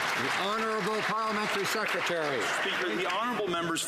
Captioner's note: some Applause